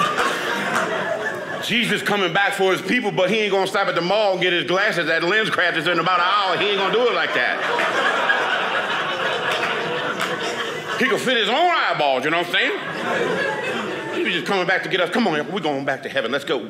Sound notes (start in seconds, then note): 7.5 audience laughing